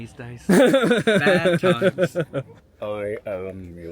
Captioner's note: laughing